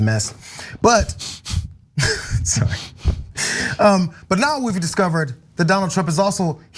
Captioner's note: laugh